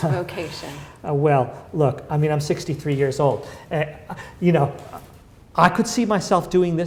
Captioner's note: chuckle